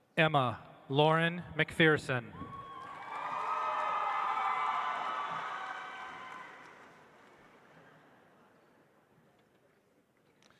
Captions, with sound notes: Emma Lauren Macpherson. (audience applauds)